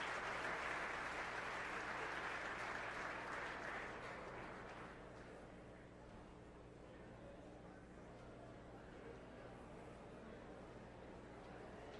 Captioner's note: applause